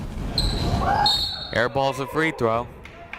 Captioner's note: whistle blows